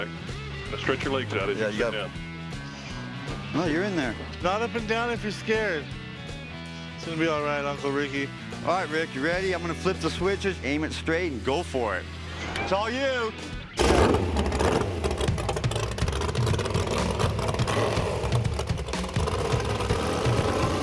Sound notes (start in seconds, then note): 13.6 engine revving; 16.7 lively music playing